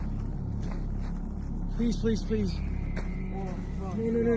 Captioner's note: screams in the distance